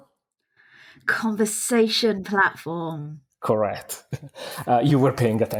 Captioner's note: laughs